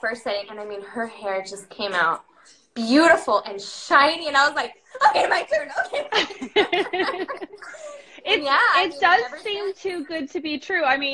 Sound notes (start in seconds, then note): 5.0 both laughing